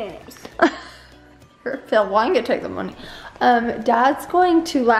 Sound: laughs

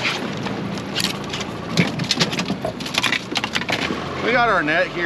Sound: fish splashing; fish thrashing

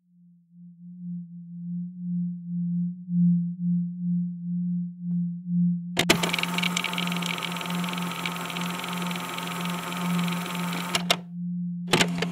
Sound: fx: tape recorder stops, music fades in

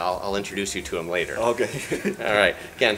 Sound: laughs

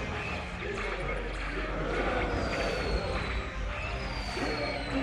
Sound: rockets and lazer shots

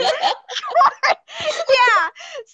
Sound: laughs

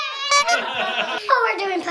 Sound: honk sound effect

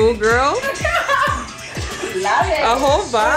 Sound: laughter

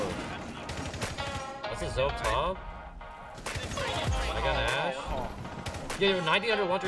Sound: upbeat music; gun shots

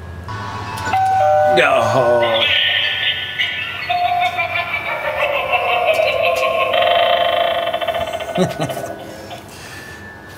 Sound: doorbell and creepy laugh

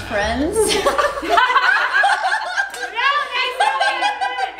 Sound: laughing

